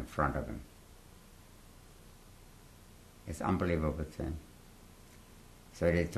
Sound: pauses for 3 seconds

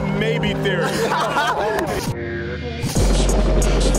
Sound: laughs

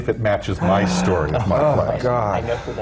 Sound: gasps of horror

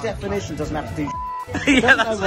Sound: beep

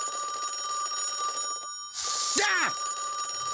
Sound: phone ringing; screams

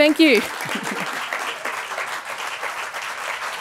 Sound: applause

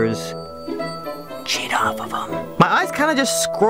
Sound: whispering

